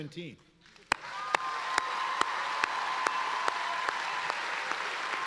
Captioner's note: applauding and cheering